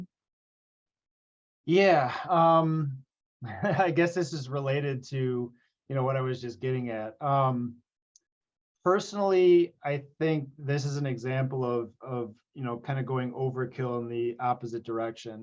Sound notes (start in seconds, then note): 3.5 laughs